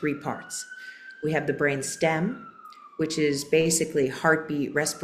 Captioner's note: sirens in background